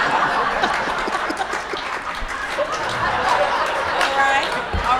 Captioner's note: audience cheers and laughing